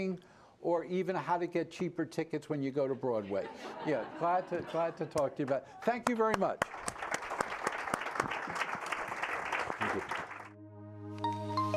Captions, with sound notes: or even how to get cheaper tickets when you go to Broadway. (Laughter) Yeah, glad to talk to you, but thank you very much. (Applause)